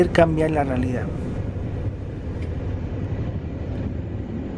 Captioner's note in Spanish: sonido del tren